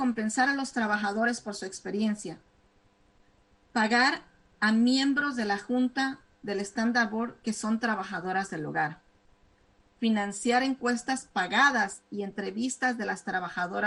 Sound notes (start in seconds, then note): 1.6 speaking spanish